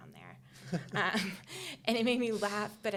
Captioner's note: laughing